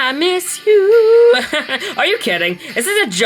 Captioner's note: Hades chuckles